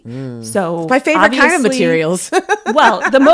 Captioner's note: laughs